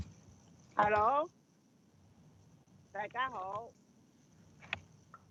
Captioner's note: speaks non-English language